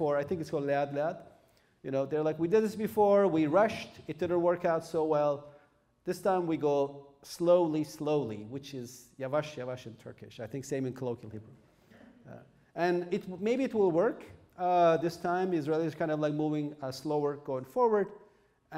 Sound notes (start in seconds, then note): 0.8 non-english speech; 8.9 speaking turkish